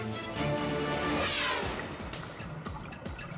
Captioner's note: air whooshes; upbeat music